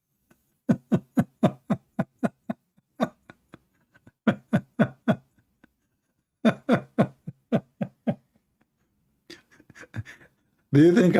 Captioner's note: Ketawa